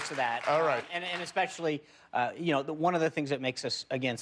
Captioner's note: cheers and applause